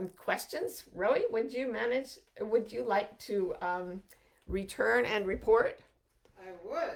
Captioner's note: murmurs